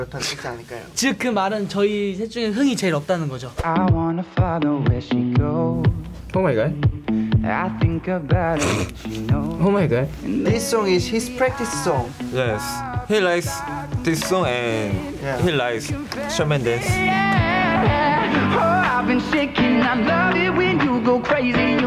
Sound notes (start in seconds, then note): 8.7 snickers